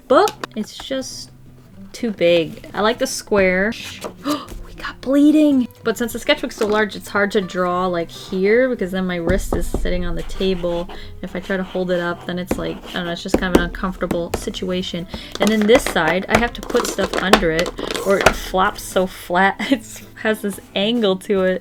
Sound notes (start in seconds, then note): 4.1 gasps